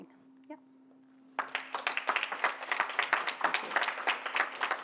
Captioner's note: applause